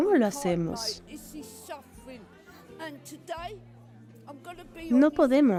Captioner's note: Hablando idioma extranjero